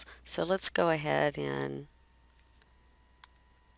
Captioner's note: silence